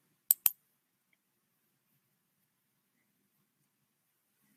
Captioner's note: mouse clicking